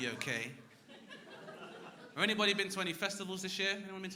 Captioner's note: crowd laughing